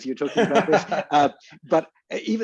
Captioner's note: laughs